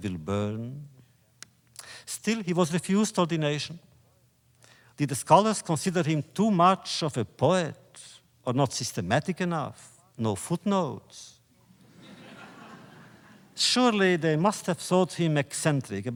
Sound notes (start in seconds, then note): 11.8 laughter